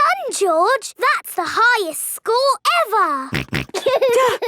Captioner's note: snorts; giggling